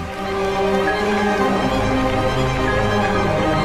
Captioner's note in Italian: Applauso